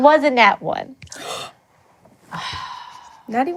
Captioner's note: gasps